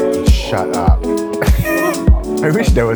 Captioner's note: chill music; laughter